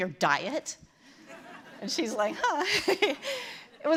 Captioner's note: laughter